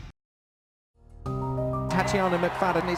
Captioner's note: piano music; cheering